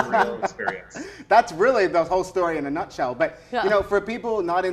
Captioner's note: laughs